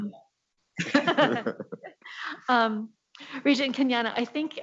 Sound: laughs

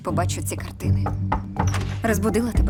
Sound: knocking

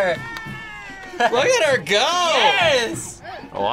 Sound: laughs

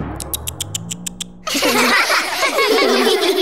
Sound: laughing

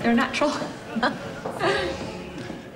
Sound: Godmother laughs

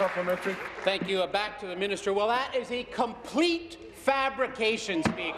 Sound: applause

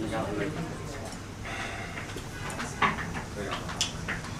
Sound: sigh

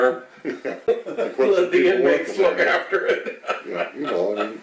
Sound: all laugh; laughs

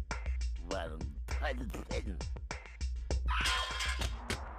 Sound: muttering

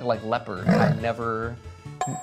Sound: leopard growling

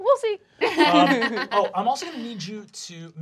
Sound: laughing

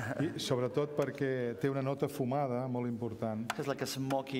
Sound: speaking catalan

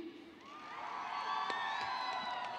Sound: cheering

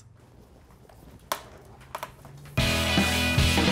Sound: fumbling in background; intro music

